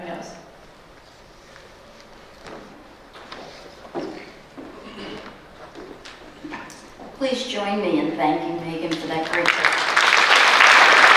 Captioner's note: applause